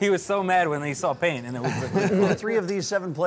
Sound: laughing

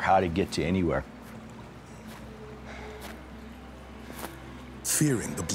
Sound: footsteps

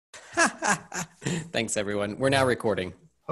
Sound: laughs

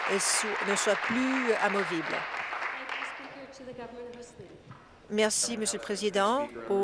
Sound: applause

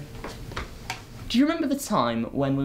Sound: footsteps

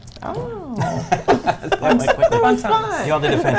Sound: laughs

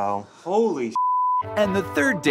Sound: beep

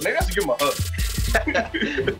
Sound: both laughing

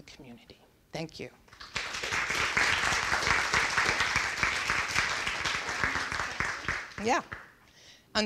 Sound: applause

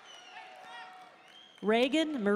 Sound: audience member shouting

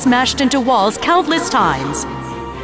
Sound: none

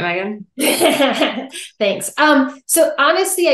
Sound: laughing

